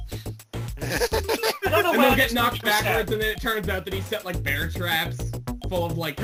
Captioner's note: gulping giggles more